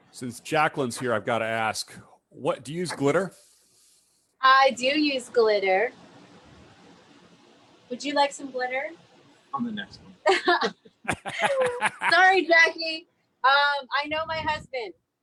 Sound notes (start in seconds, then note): 10.2 chuckles; 11.0 laughs